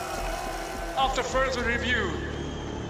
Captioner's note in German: Lautsprecher